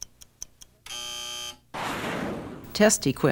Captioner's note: buzzer